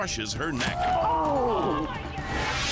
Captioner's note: tuber screaming; spectators gasping